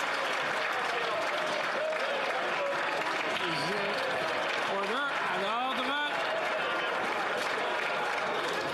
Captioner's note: some Applause